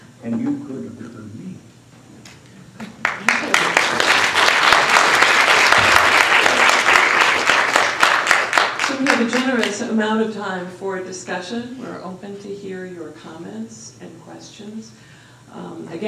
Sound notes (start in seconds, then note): 3.0 applause